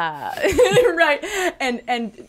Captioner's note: laughs